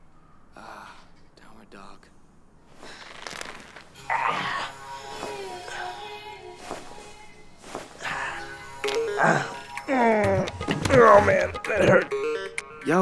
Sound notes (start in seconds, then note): 2.8 knuckles cracking; 8.8 neck cracks; 8.8 groans